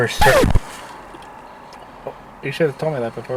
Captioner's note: record scratching